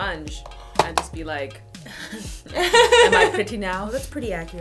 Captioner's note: laughter